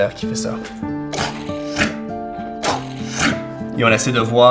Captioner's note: vocalizing a spinning top